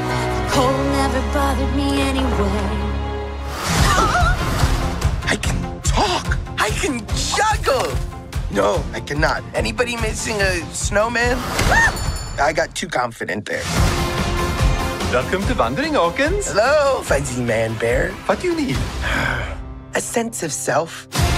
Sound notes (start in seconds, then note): 11.7 screams